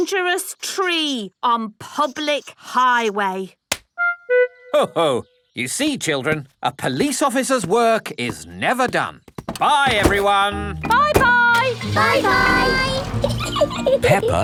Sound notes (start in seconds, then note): 11.5 engine starts; 13.2 peppa giggling